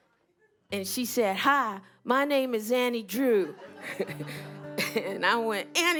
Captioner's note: laughter